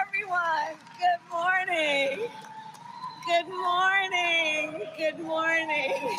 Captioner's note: applause